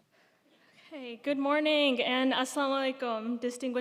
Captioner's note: speaking in foreign language